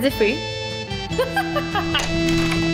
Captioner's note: laughs